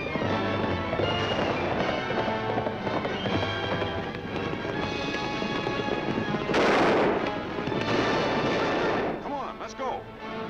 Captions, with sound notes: (gun firing) (guns firing) - Come on, let's go!